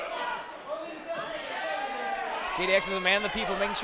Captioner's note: crowd cheers